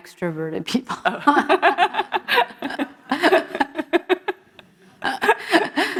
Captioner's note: laughter